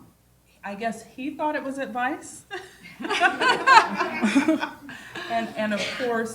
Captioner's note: laughter